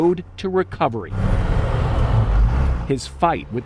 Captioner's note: engine growls